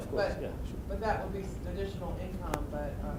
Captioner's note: voiceover